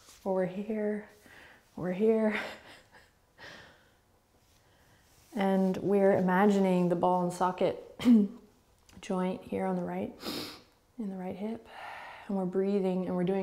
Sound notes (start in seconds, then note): 2.5 laughing